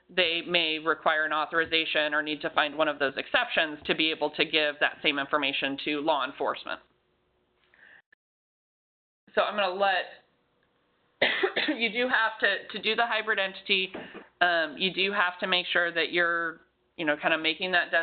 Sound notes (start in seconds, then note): 11.2 coughs